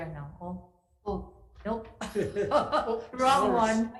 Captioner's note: laughing